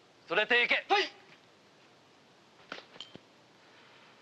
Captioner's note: speaking Japanese